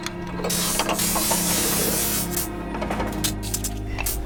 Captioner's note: machine buzzing